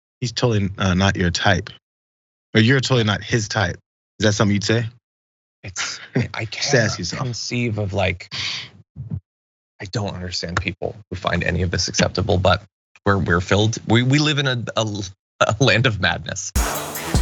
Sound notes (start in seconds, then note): 6.6 laugh